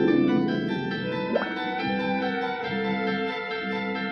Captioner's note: water bubbling